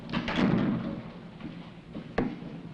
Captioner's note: door closing